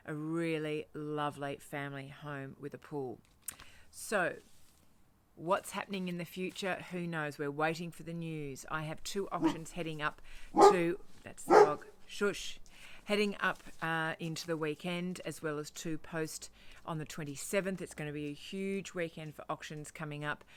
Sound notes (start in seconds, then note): 11.4 dog barking